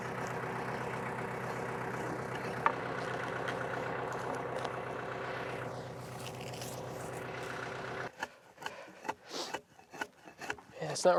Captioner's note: sawing